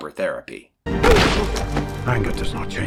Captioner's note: thud against the ice